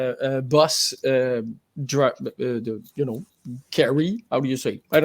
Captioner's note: stutters